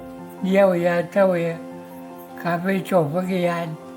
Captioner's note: speaking in Cree